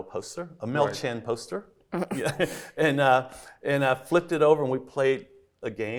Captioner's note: laughs